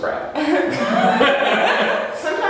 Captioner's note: laughs